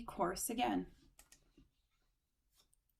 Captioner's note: click